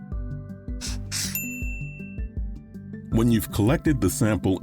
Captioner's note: bell rings